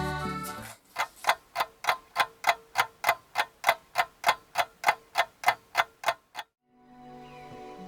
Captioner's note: clock ticking sounds